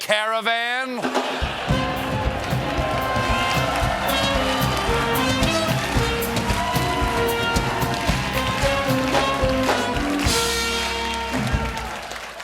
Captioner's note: applause